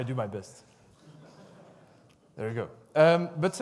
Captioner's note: audience laughs